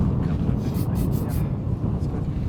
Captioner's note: wind whooshing; murmurs; loud spraying